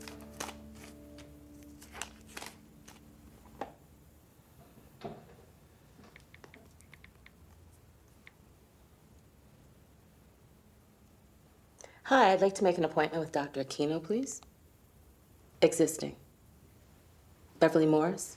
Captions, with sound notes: (gloves rustling) (phone clicking) - Hi, I'd like to make an appointment with Dr. Aquino, please. Existing. Beverly Morris.